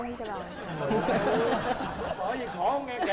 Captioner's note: laughing